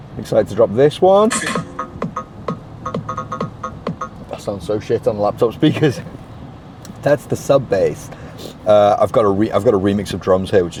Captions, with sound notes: Excited to drop this one. (upbeat EDM music) That sounds so shit on the laptop speakers (laughter) That's the sub base. I've got a re, I've got a remix of drums here,